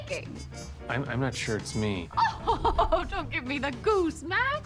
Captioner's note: laughs